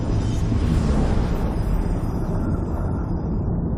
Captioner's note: dramatic sound